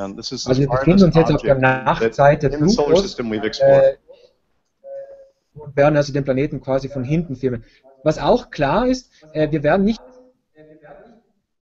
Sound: speaking german

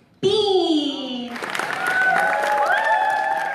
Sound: applause

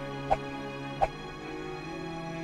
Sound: dramatic music; hands whooshing

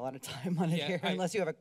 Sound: laughter

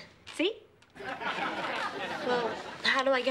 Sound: audience laughing

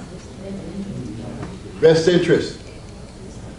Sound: audience murmers

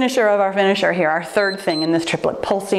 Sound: timer beeps

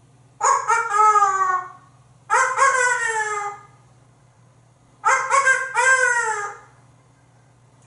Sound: random dog barks

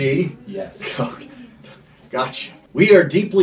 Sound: chuckling

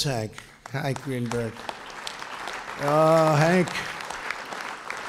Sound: applause

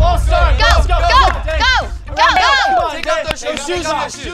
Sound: group chattering

